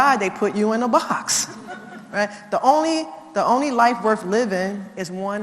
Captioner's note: laugh